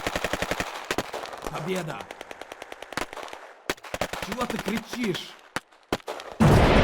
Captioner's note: speaking Russian